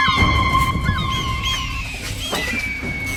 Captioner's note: gull squawking; gulls squawking loudly